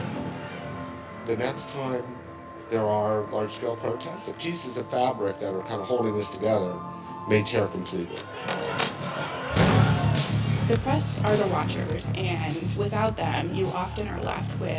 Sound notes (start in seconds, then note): 8.1 crowd yelling indistinctly; 9.5 explosion rumbling